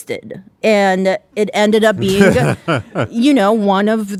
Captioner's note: laughing